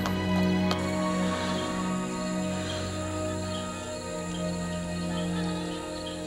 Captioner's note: birds Calling